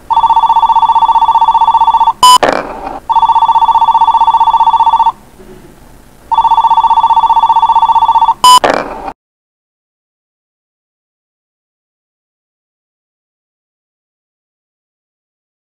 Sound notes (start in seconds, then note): 0.0 phone Ringing; 2.2 message Tone; 3.0 phone Ringing; 6.3 phone Ringing; 8.5 message Tone